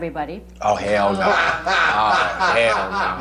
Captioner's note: laughing